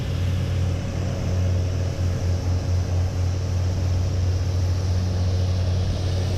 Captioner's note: construction noises, humming